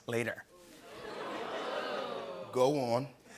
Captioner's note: audience "Oohs"